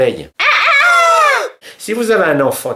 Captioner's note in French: son du coq